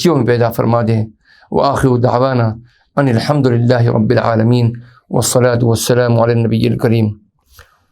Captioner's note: arabic